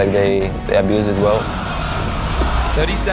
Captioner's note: crowd cheering